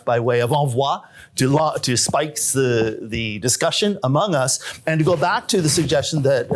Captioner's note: non-english